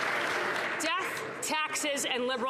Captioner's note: some Applause